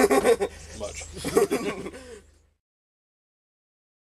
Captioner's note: they laugh